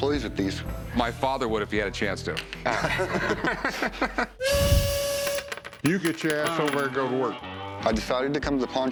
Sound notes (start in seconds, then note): 2.6 laughter; 4.4 train whistle blows